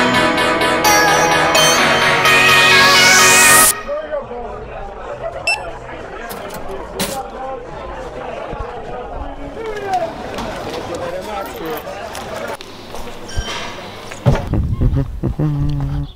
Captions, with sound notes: (Cash Register Beeping) - Thank you very much. Thank you! (Humming)